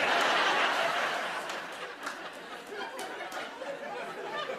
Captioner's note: laughter